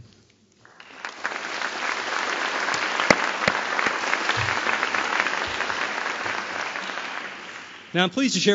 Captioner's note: applause